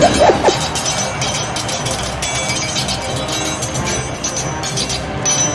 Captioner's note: lasers blasting; swords clanging; dramatic orchestral music continues